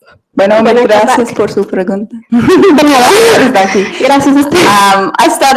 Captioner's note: speaking foreign language